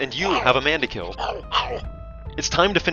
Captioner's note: Badguy yelps while avoiding the sword